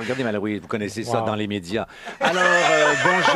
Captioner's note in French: rires